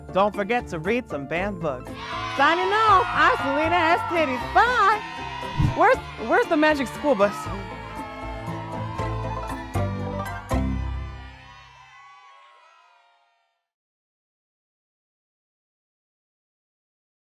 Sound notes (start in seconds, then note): 2.1 children cheer; 8.8 children cheer; 8.8 gentle music